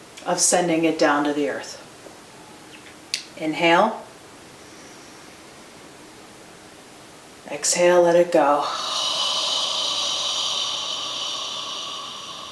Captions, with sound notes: of sending it down to the earth. Inhale. Exhale, let it go. (exhales)